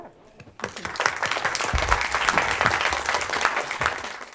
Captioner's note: audience applauds